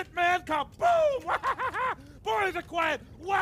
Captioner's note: laughs